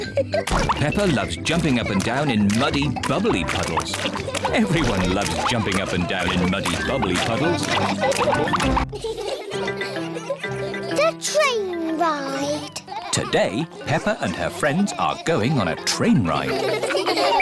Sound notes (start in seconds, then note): 8.8 laughter